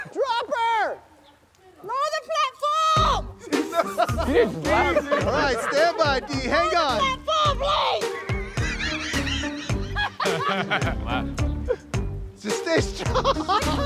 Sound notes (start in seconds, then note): 3.3 laughs